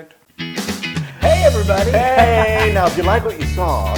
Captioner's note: laugh